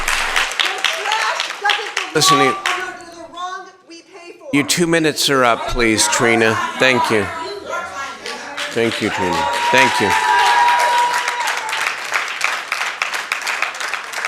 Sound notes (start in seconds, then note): 2.0 cheering; 4.6 cheering